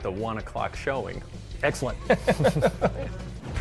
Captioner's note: laughter